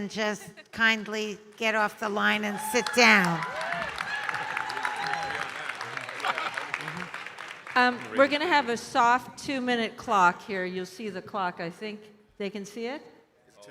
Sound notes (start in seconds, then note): 2.4 audience cheering and applauding